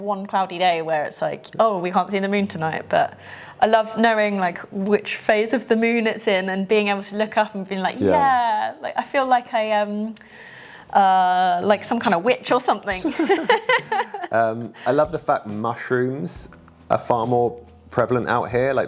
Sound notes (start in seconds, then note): 13.1 laughs